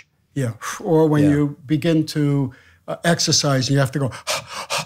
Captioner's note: exhales; panting